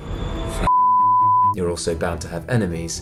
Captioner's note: beep